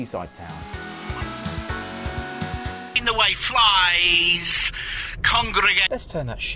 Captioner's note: awful radio presenter